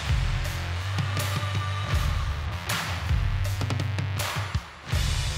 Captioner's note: applause